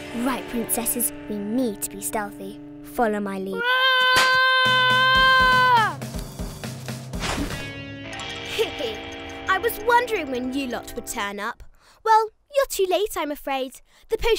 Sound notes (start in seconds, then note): 0.0 dramatic music; 3.5 Esme screaming; 8.6 giggles